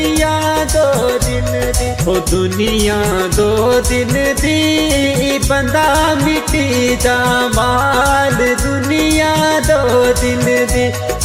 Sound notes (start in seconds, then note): none